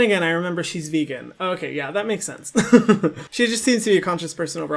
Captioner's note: laughs